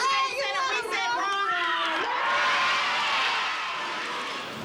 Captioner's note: cheering